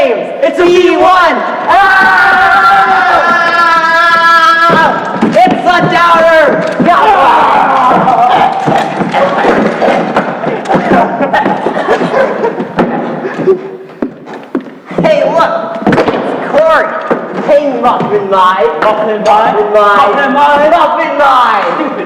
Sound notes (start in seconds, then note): 1.8 yelling; 5.3 Appie yells; 7.9 Appie laughing; 8.0 vocalising choking sounds